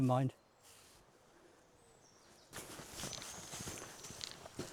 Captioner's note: birds chirping